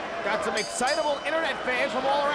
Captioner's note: bell ringing